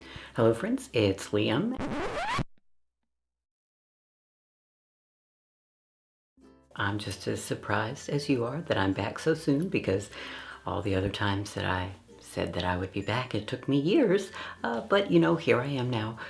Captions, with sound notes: Hello, friends, it's Liam. *record scratch* I'm just as surprised as you are that I'm back so soon, because all the other times that I said that I would be back, it took me years, but, you know, here I am now...